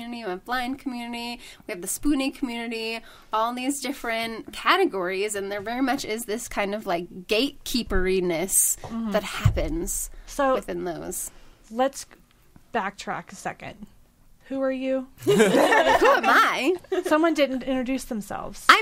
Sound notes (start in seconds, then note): 15.2 all laughing